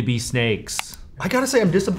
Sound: mouse clicking

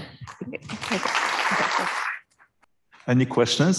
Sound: applause

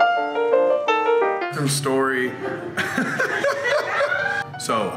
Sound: joyful laughter

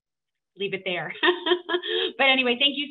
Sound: laughs

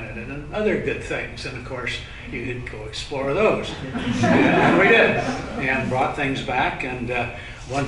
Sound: laughter

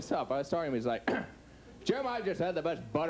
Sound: clears throat

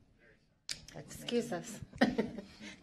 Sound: laughter

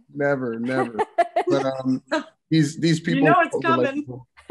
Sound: laughs

